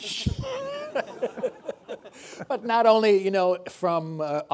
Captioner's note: laughing